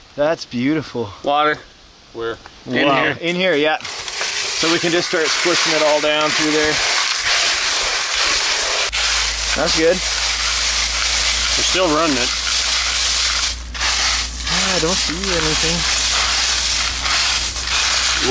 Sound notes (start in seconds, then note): 7.9 gravel shuffling; 13.1 gravel shuffling